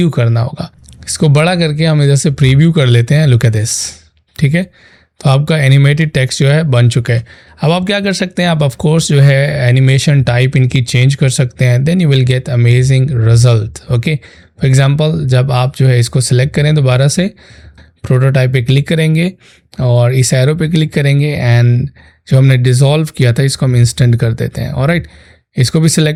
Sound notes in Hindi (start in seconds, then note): 19.7 नाक से की जाने वाली आवाज़